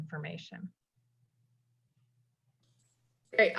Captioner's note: SIlence